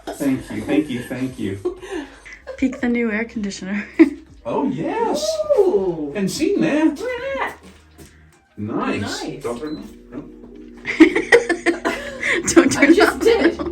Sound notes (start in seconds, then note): 10.8 laughs